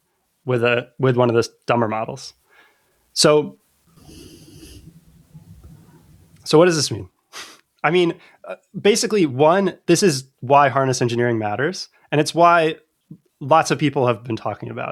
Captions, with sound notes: with a with one of the dumber models. So. So what does this mean? I mean [UH] basically one, this is why harness engineering matters, and it's why lots of people have been talking about it,